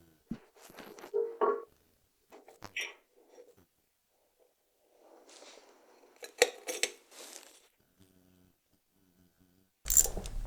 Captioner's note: metal clanking